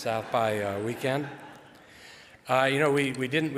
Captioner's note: audience laughs